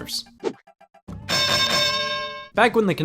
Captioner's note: bell dings